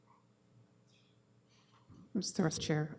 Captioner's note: audio drop